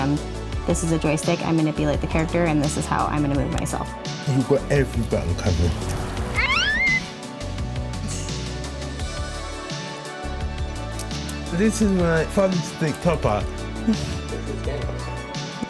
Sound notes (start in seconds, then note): 6.4 laughs